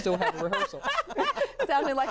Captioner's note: laughter